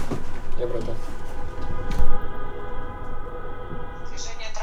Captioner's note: cars honking